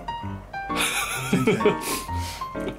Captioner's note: laughter